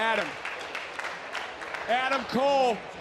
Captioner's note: audience cheering